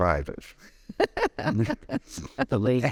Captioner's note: laughing